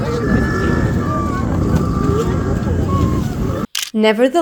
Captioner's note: penguin noises